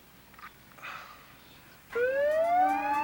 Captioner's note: click; police siren